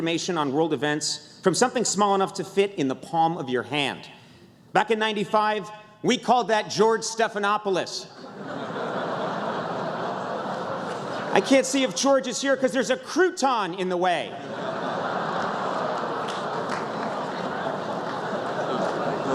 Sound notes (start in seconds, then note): 8.2 laughter; 18.2 laughter